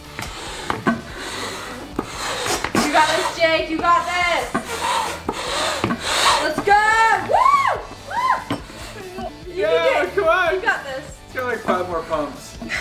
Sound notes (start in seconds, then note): 7.2 cheering